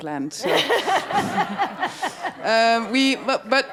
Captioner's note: all laugh